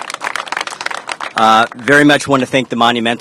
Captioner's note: applause